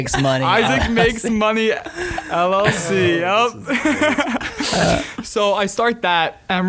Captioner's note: laughing